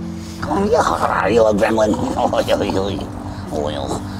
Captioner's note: coos